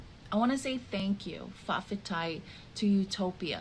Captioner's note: speaking in the Samoan language